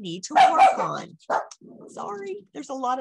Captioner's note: dogs bark